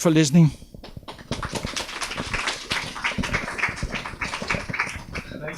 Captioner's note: audience applauding